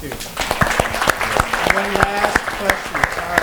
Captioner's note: applause